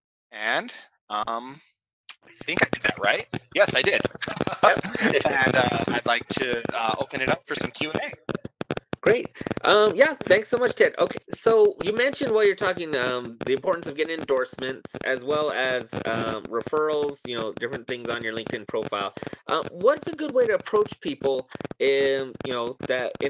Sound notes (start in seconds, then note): 4.1 laughter